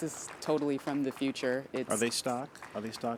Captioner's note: applause